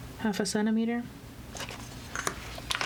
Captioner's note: paper rustling